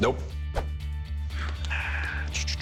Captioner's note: sighs